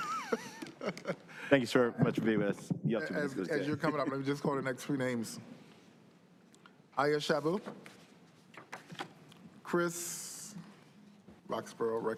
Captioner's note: laughter